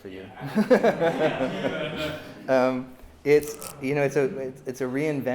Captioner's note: laughter